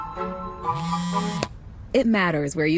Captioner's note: phone vibrating